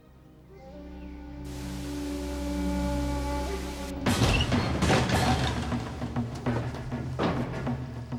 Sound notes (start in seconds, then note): 1.5 static crackles; 3.3 dramatic music